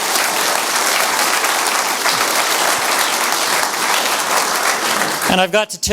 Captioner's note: audience applause continues